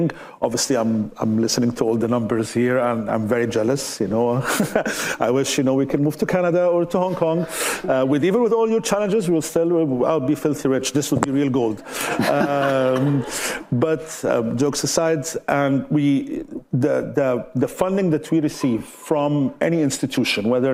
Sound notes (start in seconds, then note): 4.4 chuckling; 11.6 all laughing